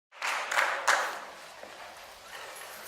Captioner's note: audience applauds